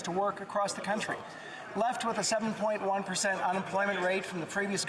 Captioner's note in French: voix de l'interprète